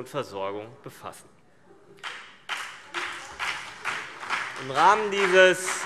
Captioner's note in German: Beifall CDU und BÜNDNIS 90/DIE GRÜNEN